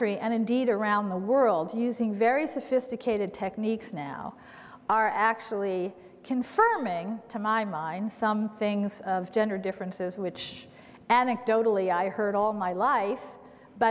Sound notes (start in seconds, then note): none